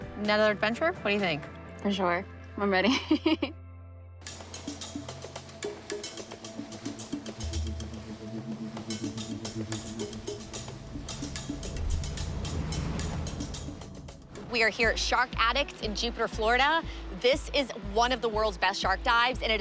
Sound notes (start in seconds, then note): 2.8 laughs; 5.2 upbeat music